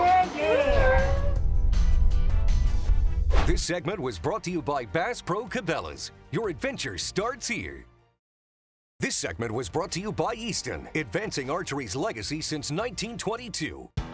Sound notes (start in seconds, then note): 0.0 upbeat music; 0.7 logo whooshing